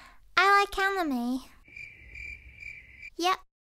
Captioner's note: crickets chirping